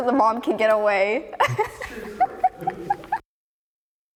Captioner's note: laughs